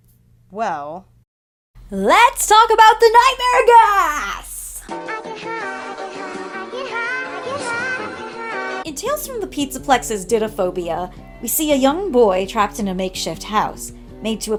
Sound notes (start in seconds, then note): 1.3 over-enthusiastic